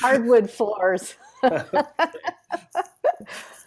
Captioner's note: laughs